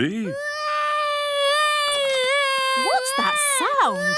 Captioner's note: baby wailing